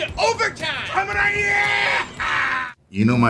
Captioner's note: shouts